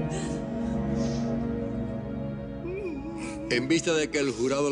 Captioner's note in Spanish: Sollozos